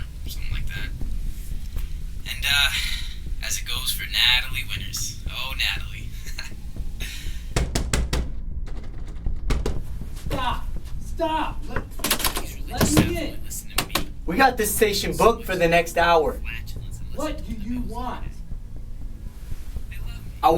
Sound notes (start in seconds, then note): 6.0 chuckles; 7.5 banging on door; 12.0 doorknob jangling